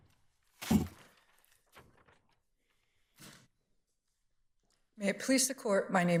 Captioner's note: justice clears throat